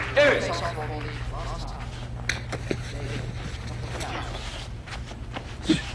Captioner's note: Arthur narrates in distance